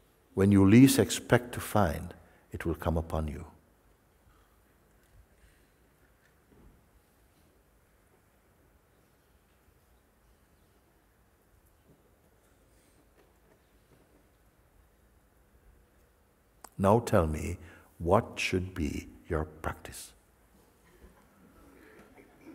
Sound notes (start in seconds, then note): 5.7 silence